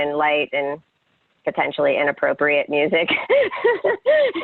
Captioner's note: laughs